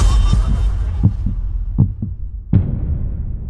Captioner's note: heartbeat